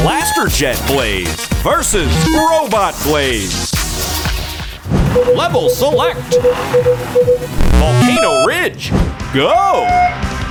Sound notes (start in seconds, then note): 5.1 beeping